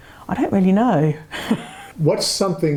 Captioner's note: chuckles